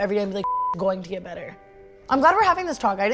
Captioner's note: beep